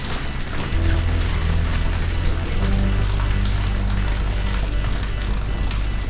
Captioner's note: outer door whirring; water pattering; ominous music continues